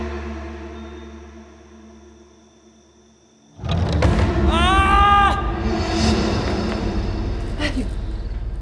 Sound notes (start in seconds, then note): 4.4 male scream